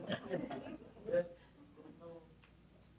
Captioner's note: laughter